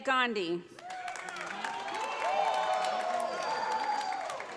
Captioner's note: audience applauds